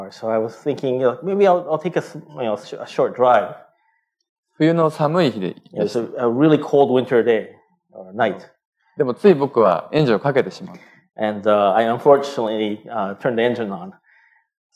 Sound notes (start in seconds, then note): 4.9 speaking japanese; 10.1 speaking japanese